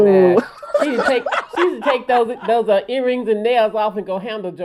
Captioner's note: laughter